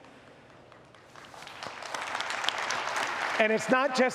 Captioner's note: audience applauds